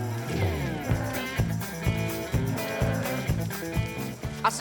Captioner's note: cow mooing